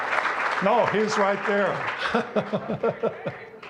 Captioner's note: applause; laughing